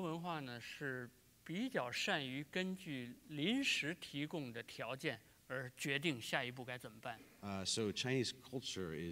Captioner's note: speaking in Chinese